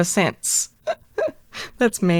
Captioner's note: chuckle